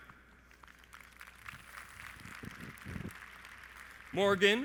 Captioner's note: audience applauds